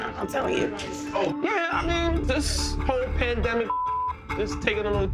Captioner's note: beeps; beeps